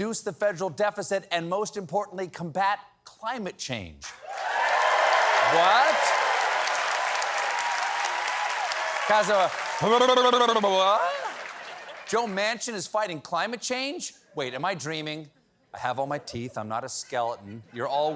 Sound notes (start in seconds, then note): 4.1 cheers and applause